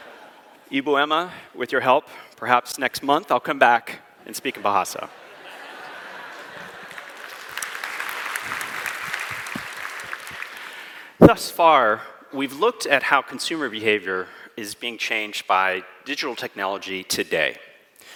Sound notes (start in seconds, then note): 5.0 laughter; 6.3 applause